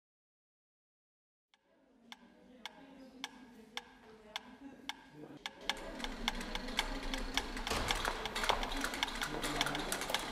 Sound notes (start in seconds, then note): 1.9 metronome ticks; 5.4 many metronomes tick